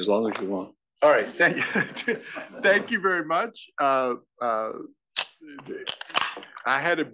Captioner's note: laugh